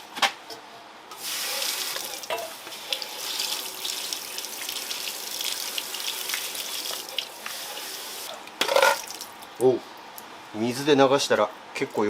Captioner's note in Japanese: シャワー音